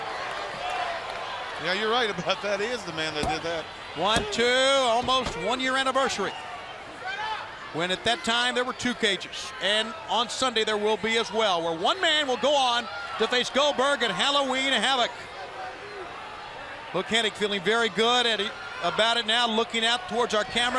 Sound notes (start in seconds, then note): 1.2 crowd cheering; 8.0 crowd chatter